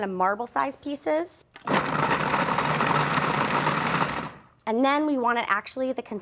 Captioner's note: churning